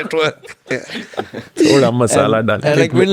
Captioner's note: laughs